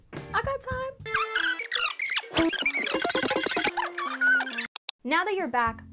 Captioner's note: fast forward screeching